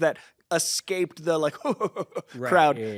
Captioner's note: chuckles